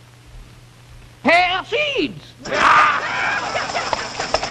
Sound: laughing

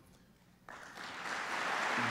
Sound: applause

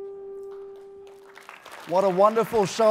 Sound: applause

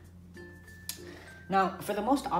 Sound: lip Smack

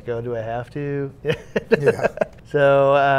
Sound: laughing

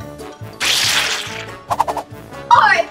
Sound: air whipping

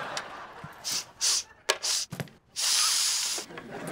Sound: sniffing

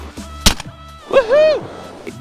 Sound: gun firing

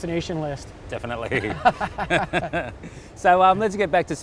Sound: laughs

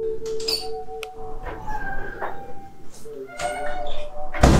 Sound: door open

